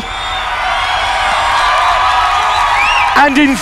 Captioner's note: loud cheering